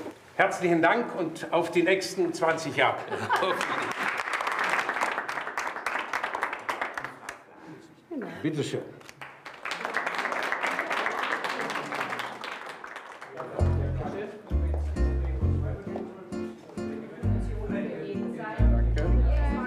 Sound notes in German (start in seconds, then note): 3.0 Lachen, Applaus; 9.0 Applaus